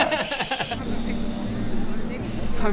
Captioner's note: contented sniff